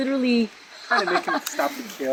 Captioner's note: laughs